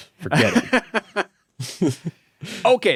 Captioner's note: laughing